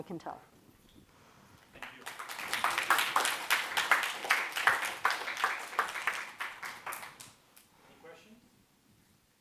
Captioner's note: applause